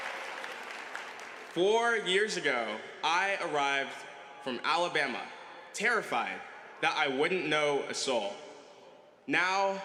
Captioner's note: laughter and applause